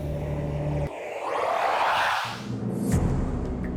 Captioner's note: whooshes